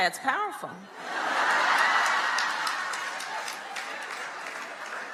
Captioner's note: crowd laughing